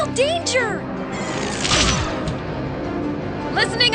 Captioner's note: zapping sound